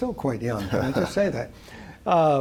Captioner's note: laughing